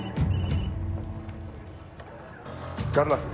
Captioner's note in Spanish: Suena el celular